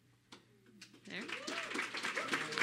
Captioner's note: applause